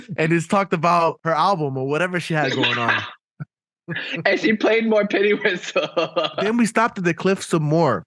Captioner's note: laughing